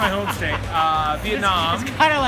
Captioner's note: laughing